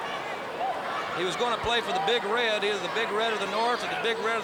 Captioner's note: crowd chatter